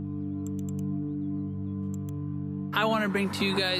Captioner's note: mouse clicking